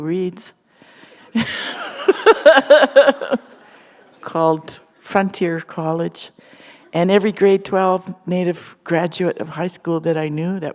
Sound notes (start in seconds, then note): 1.3 laughter